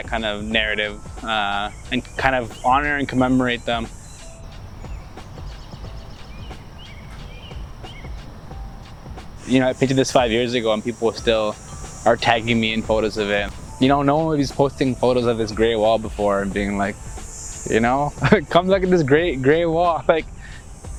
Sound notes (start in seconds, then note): 4.1 birds chirping; 4.1 jazzy music